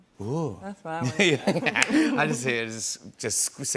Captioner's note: laughter